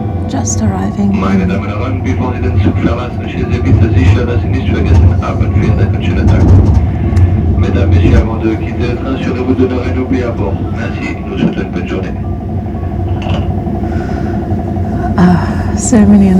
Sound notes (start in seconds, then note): 3.2 announcement in German; 7.4 announcement in French